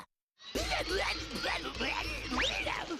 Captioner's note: grunting